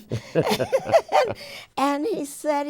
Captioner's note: both laugh